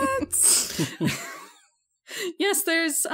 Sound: laughs

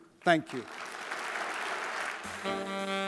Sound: audience applauding

